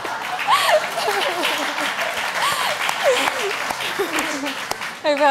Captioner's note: audience laughs; audience applauds